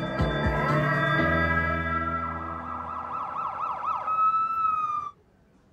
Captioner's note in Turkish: Ambulans sireni çalıyor